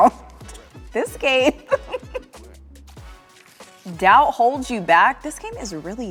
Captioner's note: laughs